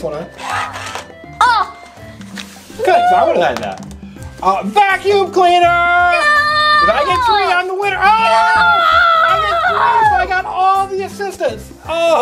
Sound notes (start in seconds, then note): 8.4 excited Noises